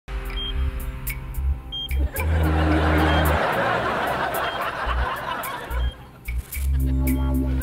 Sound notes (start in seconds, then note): 1.7 beeping; 2.0 laughing